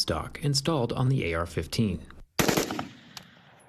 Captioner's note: sound of gunfire